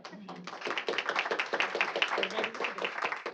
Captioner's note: applause